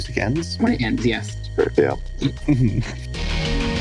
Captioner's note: backtracking chortle noises